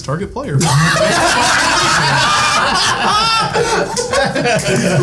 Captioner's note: all laughing